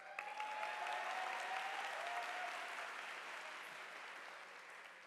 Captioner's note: audience applauding